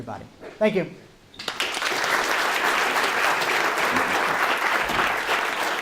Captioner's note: applause